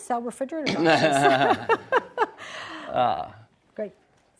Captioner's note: laughing